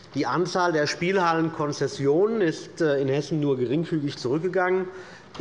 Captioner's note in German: none